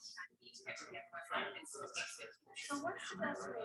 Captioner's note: people chattering indistinctly